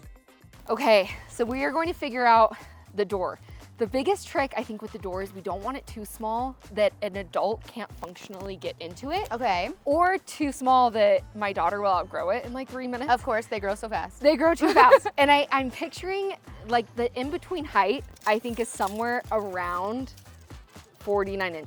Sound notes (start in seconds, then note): 14.6 laughs